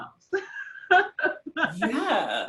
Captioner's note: laughs